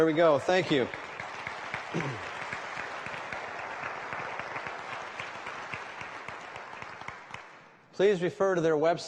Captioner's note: applause